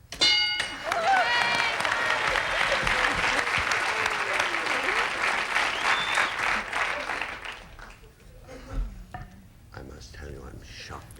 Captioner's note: audience applauding